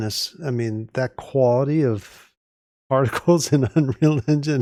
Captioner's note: laughing